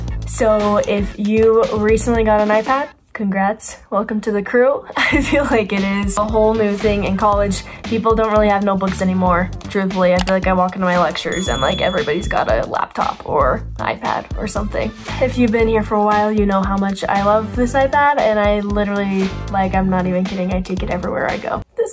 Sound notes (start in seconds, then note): 10.1 mouse clicks; 11.2 bell chimes